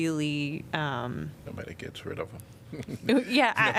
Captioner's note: laughter